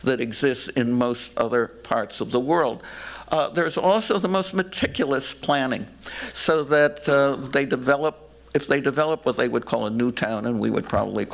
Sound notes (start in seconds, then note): none